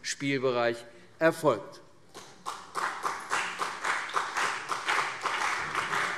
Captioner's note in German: Beifall CDU und BÜNDNIS 90/DIE GRÜNEN